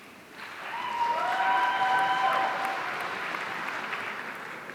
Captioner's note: audience cheering